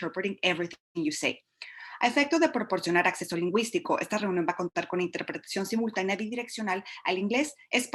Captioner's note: Spanish